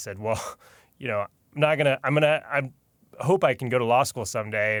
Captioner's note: chuckles